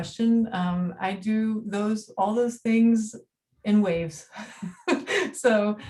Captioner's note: laughing